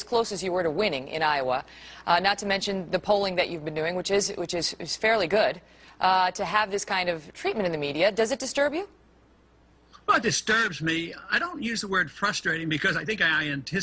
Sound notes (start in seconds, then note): none